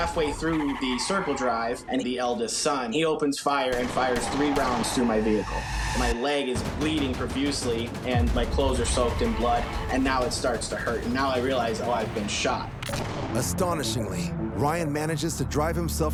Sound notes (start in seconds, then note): 3.6 gun blasting